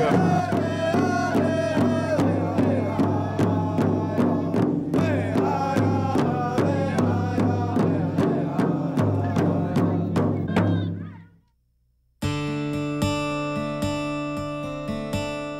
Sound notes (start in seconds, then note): 0.2 drums Beating; 4.0 Indians Chanting